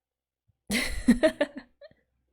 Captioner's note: laughs